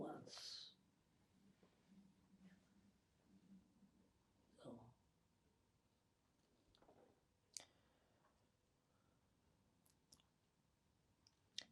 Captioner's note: pauses 10 seconds